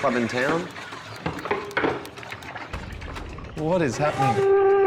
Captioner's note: banging, water splashing